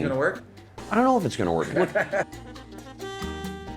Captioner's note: laughs